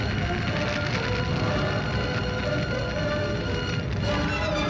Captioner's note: volcano erupting